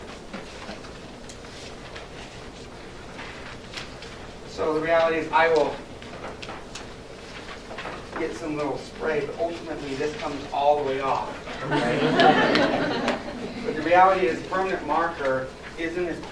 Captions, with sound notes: So the reality is, I will get some little spray, but ultimately, this comes all the way off, okay? (laughter) But the reality is, permanent marker